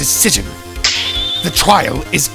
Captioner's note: snap!